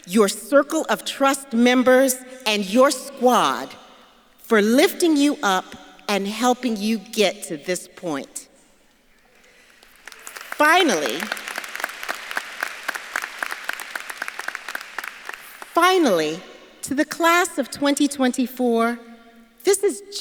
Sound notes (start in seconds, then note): 9.4 audience clapping